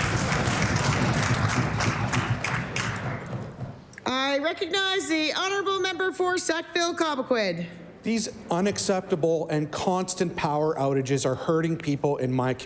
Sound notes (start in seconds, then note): 3.5 applause